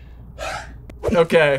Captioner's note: sighs